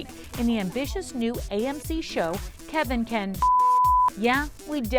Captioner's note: beep